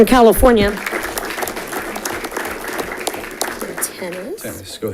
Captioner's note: audience clapping